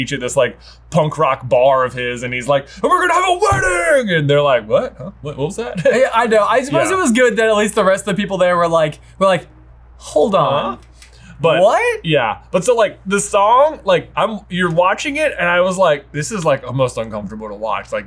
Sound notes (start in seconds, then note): 5.6 chuckles